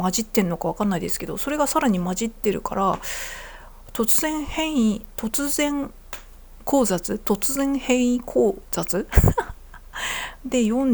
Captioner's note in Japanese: 笑い